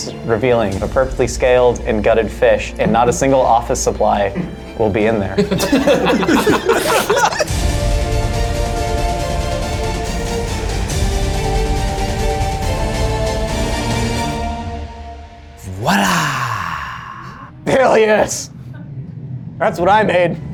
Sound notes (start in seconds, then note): 5.3 all laughing; 8.0 intense music